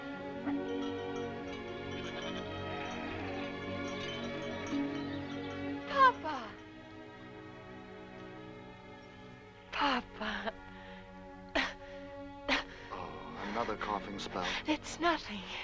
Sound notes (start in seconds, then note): 0.1 soft music; 11.6 coughing